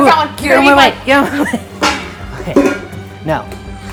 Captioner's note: laughing